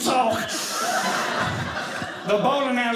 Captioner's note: audience laughing